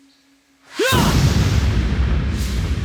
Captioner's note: grunting